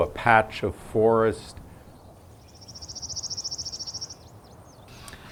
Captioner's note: bird song rises, and then continues as subtext to following conversations